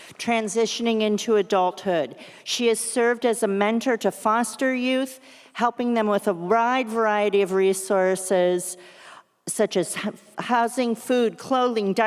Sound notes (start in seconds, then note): none